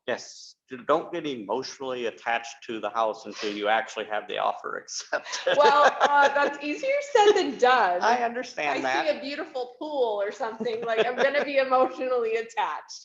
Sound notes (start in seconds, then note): 5.9 laughs